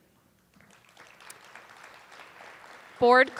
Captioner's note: attendees applauding